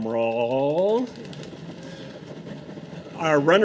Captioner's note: audience drumroll